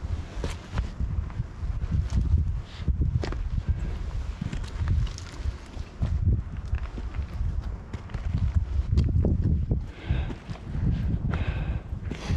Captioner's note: wind